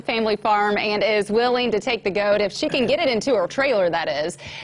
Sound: laughs

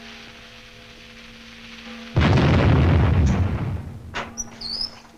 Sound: explosion booming

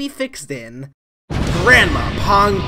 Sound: explosion

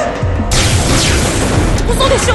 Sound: two blaster shots

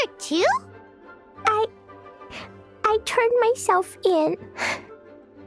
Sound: sobbing

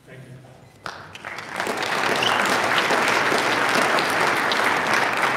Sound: audience applauding

